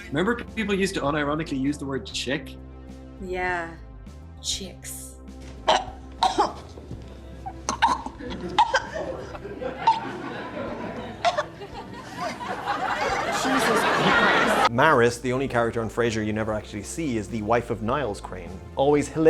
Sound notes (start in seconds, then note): 5.4 choking noises; 9.3 canned laughter; 9.3 choking noises